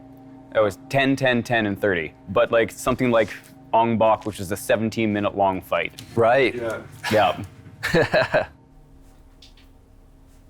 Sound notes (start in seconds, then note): 7.8 chuckles